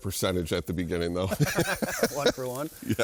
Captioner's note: both laughing